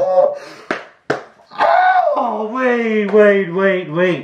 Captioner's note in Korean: 짝짝